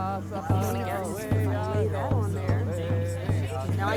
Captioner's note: people chattering